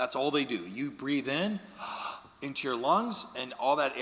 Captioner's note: inhaling